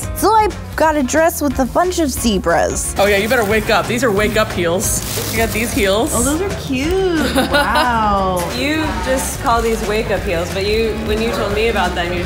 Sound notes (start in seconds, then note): 7.0 laughing